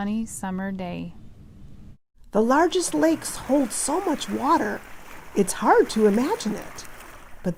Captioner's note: waves